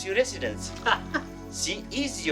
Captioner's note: laughter